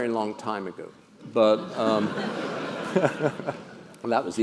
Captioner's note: laugh